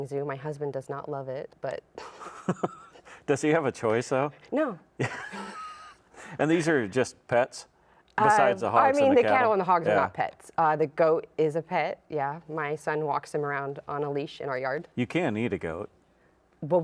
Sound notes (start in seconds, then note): 5.0 laughs; 5.0 both chuckle